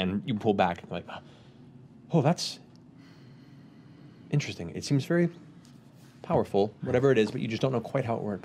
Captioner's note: gasp